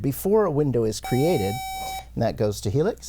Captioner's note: buzzer